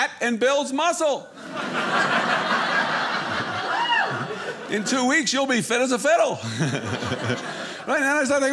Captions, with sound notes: "and builds muscle. (audience laughing) "In two weeks, you'll be fit as a fiddle." (audience laughing) Right, then I start thinking,